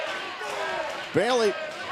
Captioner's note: fans chanting